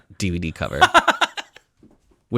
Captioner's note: laughs